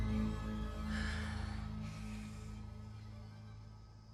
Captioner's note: exhales